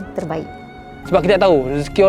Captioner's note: foreign language